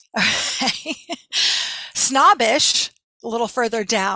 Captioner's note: laughing